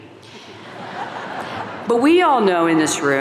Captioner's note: audience laughing